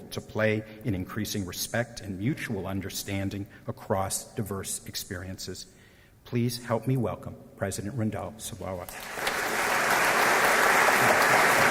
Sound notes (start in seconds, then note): 8.8 applause